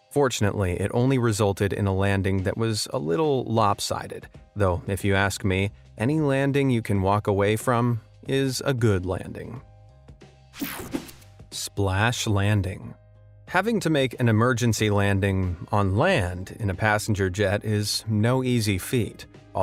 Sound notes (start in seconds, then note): 9.6 gentle music; 10.6 graphic whooshes